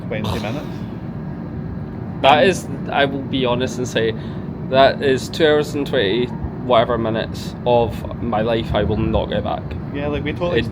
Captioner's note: sighs